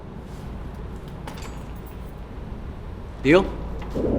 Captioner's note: object jingles